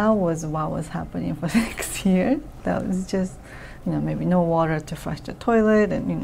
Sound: laughs

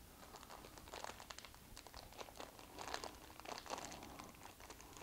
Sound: crinkling

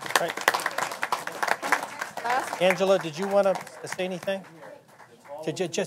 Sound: applause

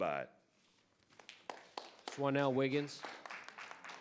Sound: audience applauding

